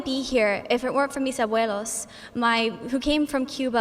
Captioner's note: speaking in foreign language